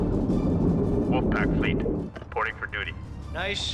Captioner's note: man on radio